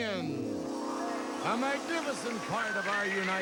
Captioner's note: audience applauding